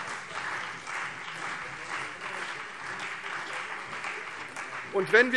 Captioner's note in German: Beifall CDU und BÜNDNIS 90/DIE GRÜNEN - Zurufe SPD und DIE LINKE